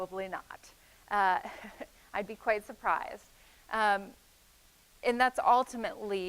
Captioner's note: chuckling